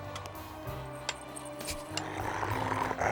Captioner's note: snarling